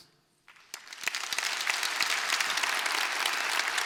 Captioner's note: applause